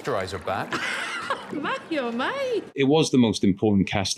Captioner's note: laughs